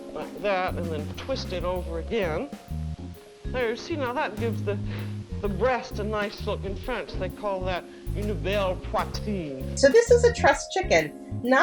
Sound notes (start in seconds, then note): 0.0 moderate music; 7.7 speaks in foreign language